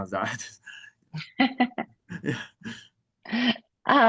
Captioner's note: laughs